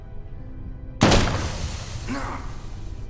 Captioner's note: gun firing